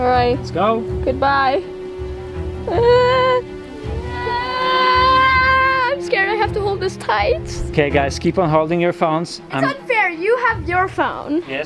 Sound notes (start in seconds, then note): 2.6 whimpers